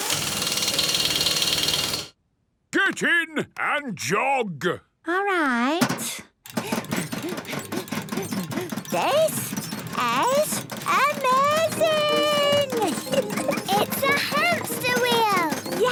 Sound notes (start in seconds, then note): 0.0 drilling; 6.6 panting